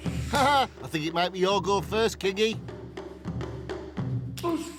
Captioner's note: Dave chuckling